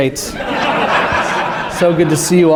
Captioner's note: laughter